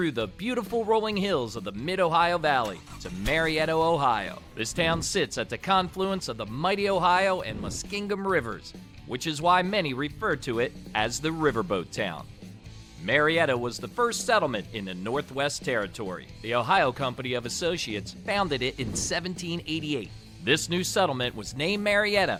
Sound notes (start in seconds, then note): 4.2 air whooshing